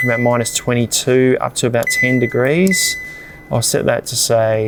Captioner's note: fridge beeps